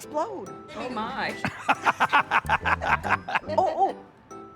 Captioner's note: laughs